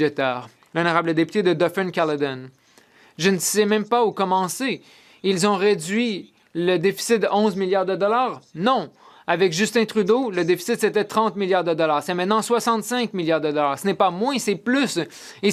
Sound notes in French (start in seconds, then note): 7.0 voix de l'interprète